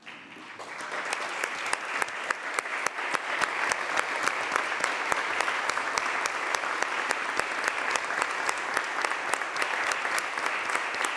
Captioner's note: applause